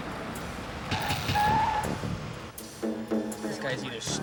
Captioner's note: tires screeching